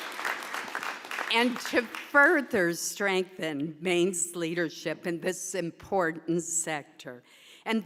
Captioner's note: applause